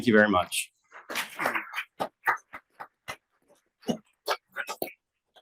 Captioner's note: attendees clapping